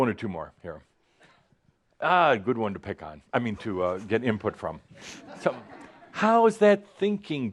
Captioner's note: some laughter